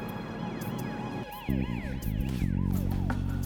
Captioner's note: siren wailing